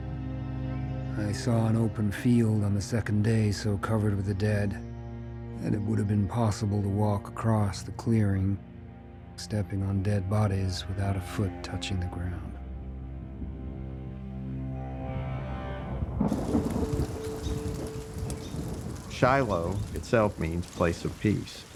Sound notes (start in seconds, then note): 16.1 thunder and rain; 16.2 birds chirping